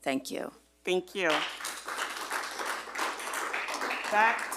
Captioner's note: group applauding